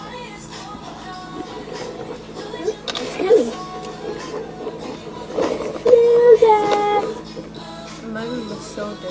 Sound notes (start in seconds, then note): 1.4 sounds of a car approaching in the distance; 6.0 people in car, yelling